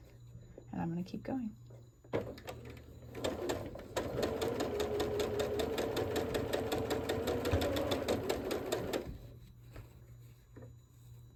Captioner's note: sewing